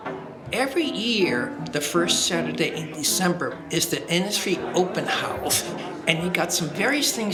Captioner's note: quiet piano music; people chattering